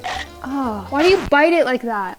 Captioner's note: teeth chomping